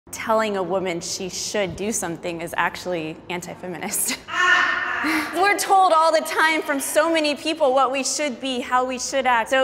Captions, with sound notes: - Telling a woman she should do something is actually anti-feminist. (participant laughing) We're told all the time from so many people what we should be, how we should act.